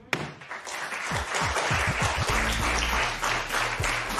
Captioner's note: applause